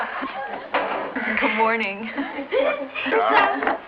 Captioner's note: laughing; chuckles